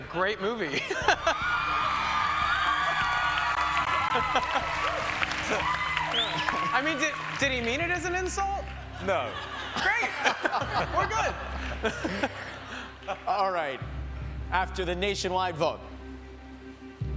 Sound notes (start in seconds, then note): 4.1 cheers and applause